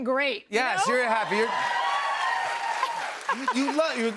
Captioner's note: cheers and applause